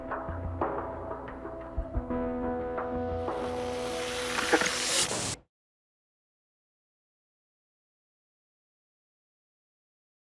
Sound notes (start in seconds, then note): 3.3 tv turned off